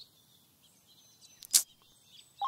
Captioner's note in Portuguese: Língua cliques